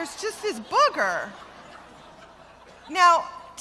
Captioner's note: laughter